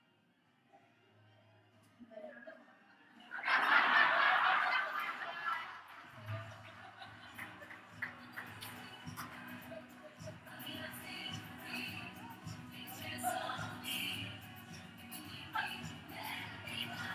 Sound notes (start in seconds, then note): 2.3 audience laughs; 8.5 upbeat music